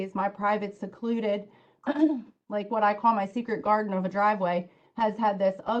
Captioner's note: cough